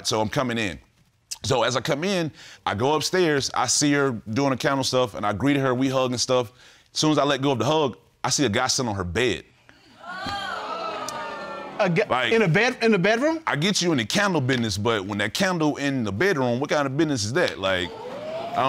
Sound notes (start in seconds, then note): 10.0 audience exclaims